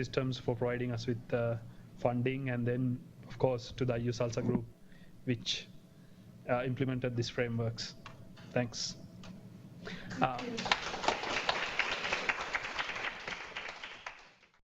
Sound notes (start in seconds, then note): 10.1 clapping